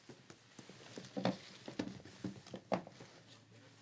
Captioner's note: rustling